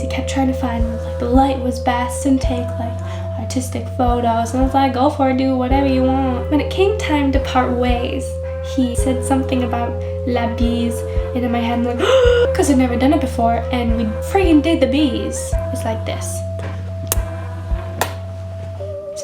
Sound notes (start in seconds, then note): 11.9 inhale